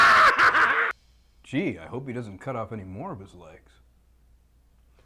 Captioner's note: laughs